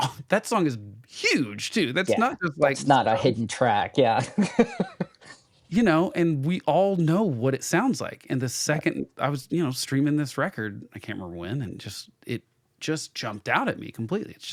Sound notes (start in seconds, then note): 4.2 laughs